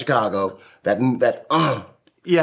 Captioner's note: grunting